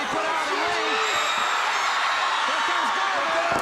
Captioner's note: crowd cheering